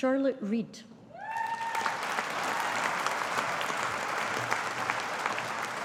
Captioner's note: audience applauding